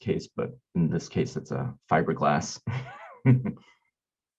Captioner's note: laughing